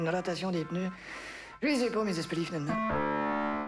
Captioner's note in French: Inspirant